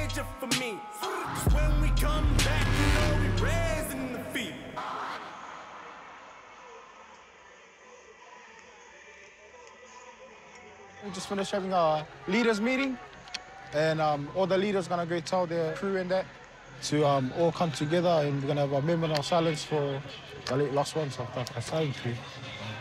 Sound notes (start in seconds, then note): 5.1 crowd chatters; 5.1 hip hop music